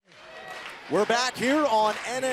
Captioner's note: crowd chatter